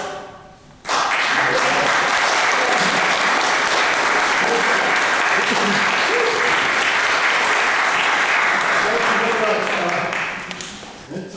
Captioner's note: applause